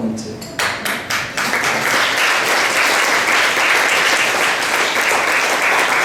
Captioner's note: applause